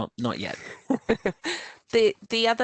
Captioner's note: laughter